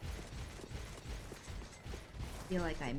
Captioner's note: gunfire